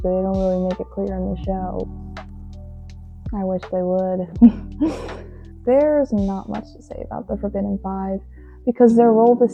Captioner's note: laughs